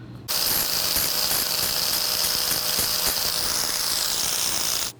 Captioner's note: machine whirring